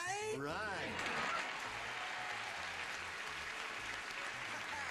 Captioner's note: applause